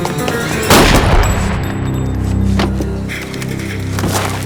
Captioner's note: gun firing